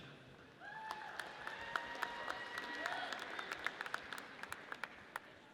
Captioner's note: audience cheers